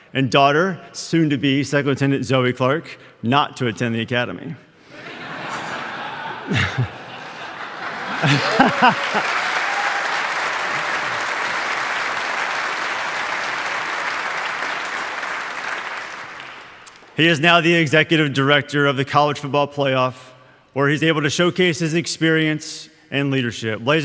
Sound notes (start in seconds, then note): 4.8 audience laughing; 8.2 audience applauding